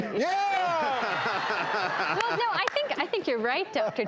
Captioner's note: audience laughs